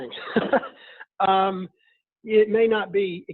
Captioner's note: laughing